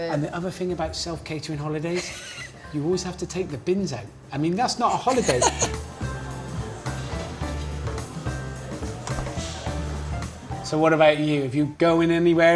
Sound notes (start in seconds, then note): 4.9 laughing; 6.2 soft upbeat music